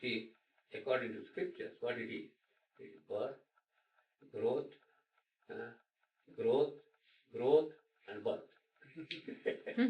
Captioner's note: laughter